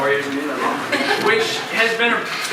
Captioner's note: crowd giggling